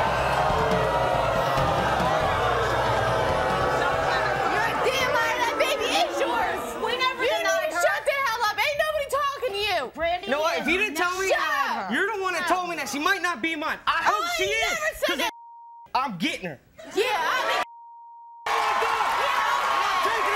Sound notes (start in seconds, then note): 0.0 audience boos; 15.3 beep; 16.5 crowd cheering; 17.6 beep